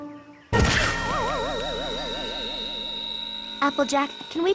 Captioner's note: thud!; ears ringing